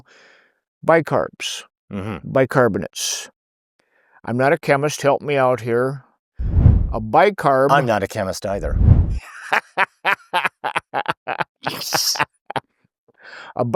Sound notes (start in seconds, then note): 6.4 whooshing sound; 9.5 laughing